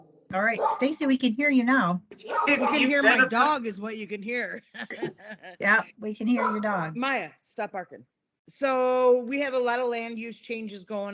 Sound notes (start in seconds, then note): 4.6 laughs